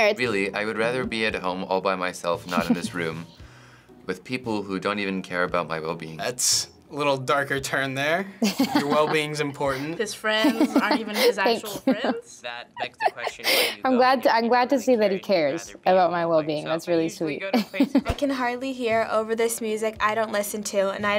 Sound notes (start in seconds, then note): 8.4 chuckles; 12.7 laughs; 17.5 chuckles